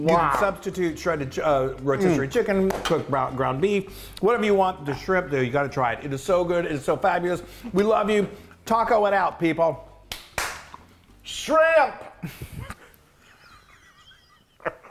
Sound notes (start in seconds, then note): 10.1 clapping; 12.2 guys laughing